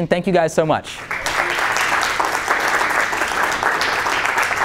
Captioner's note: applause